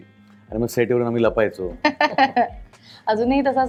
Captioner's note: chuckles